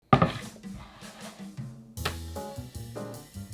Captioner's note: board sliding